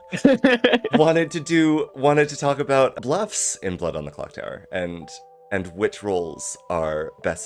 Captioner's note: laughter